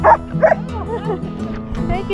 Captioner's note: dog barking